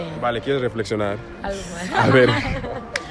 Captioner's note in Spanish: risas